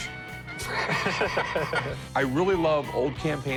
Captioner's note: laughter